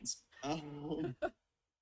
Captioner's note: laughs